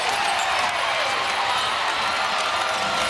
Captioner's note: cheers and applause